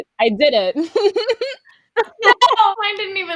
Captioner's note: chuckling